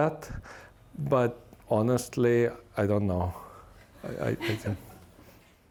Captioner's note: laughter